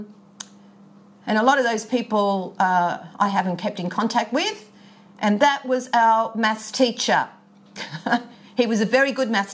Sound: chuckles

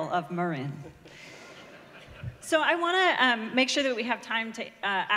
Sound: laughter

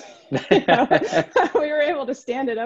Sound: laughing

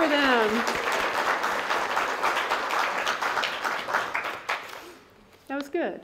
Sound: applause

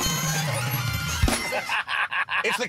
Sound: alarm sounds, bells ring

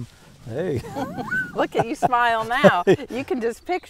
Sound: laughing

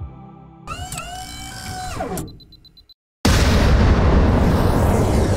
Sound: beeping followed by sound of rocket launching

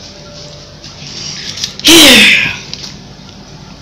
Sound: sigh

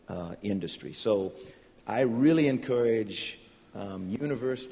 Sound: none

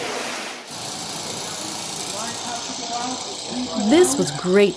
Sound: water splashes; water pouring

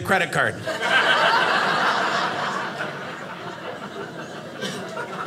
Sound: audience laughing

